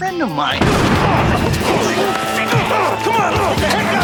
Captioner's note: shotgun blasts